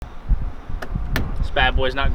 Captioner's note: hand slapping